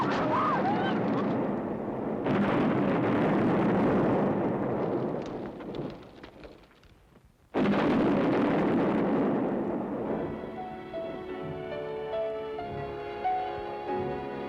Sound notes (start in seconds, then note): 2.2 explosions continue; 10.1 tranquil music